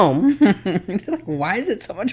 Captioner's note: laughing